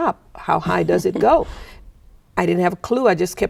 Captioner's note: chuckling